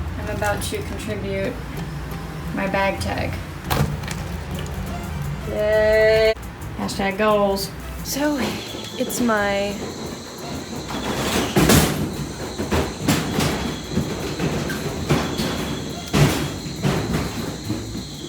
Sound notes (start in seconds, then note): 3.6 bottle crunches; 10.9 loud banging noise